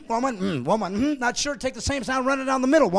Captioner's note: laughing